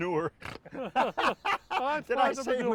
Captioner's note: laughing